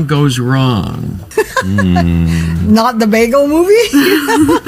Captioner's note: laughs